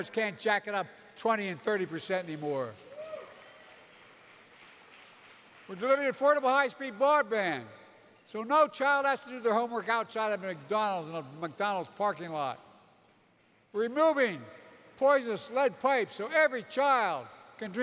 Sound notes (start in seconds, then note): 2.9 applause